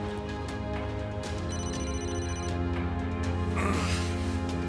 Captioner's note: phone ringing; grunting